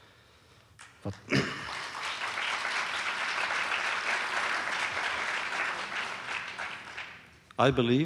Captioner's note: audience applauses